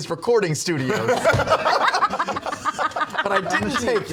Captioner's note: laughter